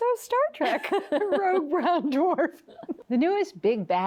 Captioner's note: both laughing